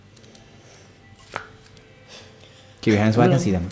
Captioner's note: drops pencil